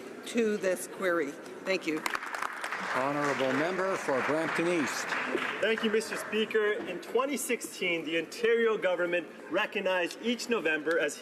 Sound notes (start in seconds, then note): 6.3 some Applause